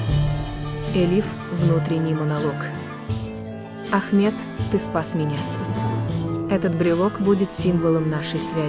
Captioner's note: internal monologue